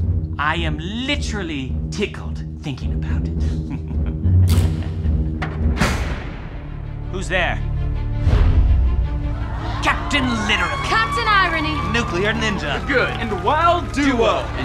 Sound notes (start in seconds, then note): 3.4 evil laughter; 5.6 clatter of a door